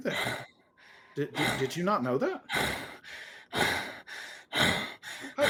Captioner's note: heavy breathing